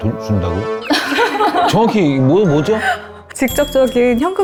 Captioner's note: giggle